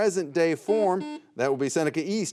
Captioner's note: buzzer beeps